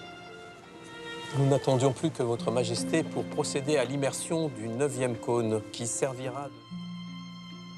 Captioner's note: gentle music; man speaking in French